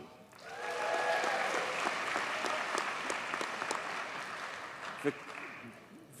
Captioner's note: audience cheers and applauds